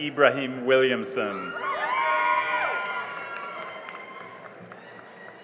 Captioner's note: cheering and applause